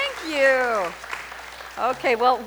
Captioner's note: audience applauding